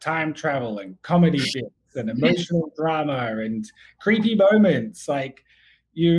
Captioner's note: laughs